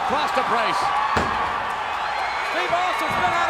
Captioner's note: audience cheers